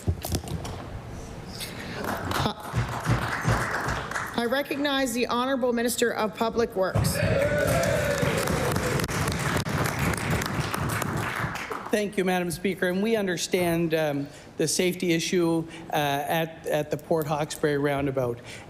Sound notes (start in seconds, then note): 7.2 applause; 11.3 cheering & Applause